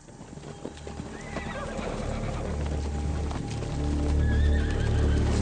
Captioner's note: horse hooves clopping; horses neighing; somber atmospheric music